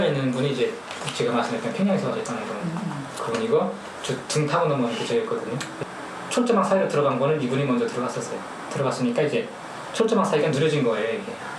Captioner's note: speaking in foreign language